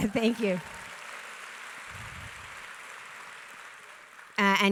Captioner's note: audience applauds